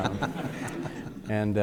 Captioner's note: room laughing